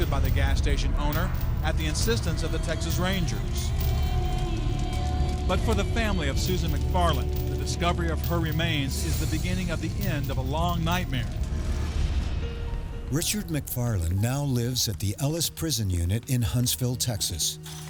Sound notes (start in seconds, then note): 3.8 fire crackling; 12.3 somber piano music